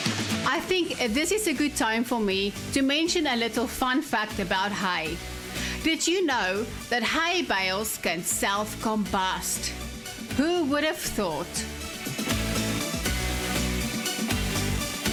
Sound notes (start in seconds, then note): 0.6 narrating; 12.4 upbeat music